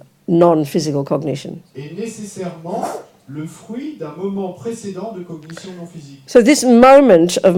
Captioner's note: audience member speaks in French